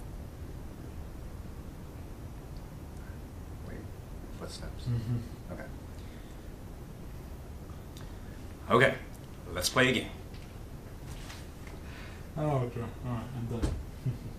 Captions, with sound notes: What's next? Okay... Okay! Let's play a game... *Laughter*